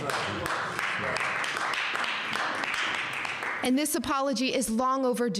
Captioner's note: audience applauding